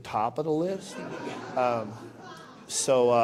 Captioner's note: laughter